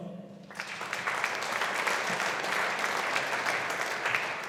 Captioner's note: audience applauding